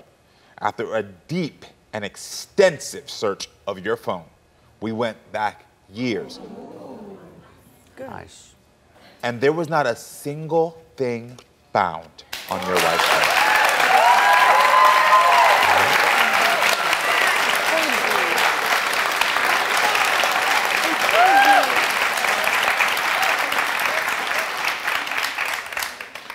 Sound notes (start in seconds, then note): 6.2 audience oohing; 13.3 audience cheering and clapping; 22.0 audience cheering and clapping